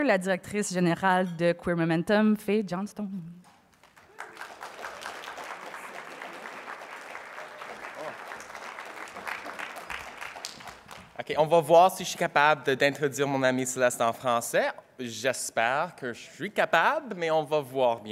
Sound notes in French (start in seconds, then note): 3.7 applaudissements